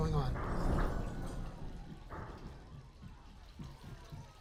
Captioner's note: metal clattering